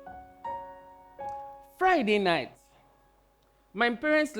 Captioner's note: none